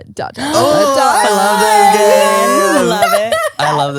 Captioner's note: all exclaiming